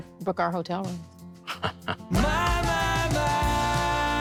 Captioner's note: chuckles